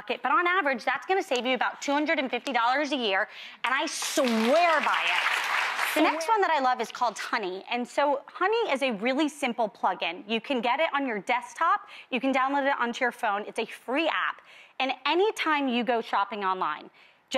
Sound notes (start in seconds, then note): 3.8 audience applauding